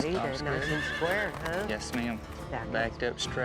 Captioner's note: horse neighing